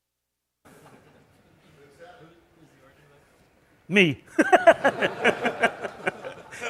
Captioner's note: laughter